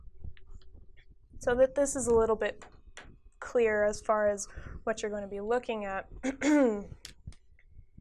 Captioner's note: clears throat